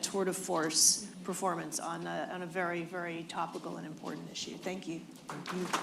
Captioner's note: applause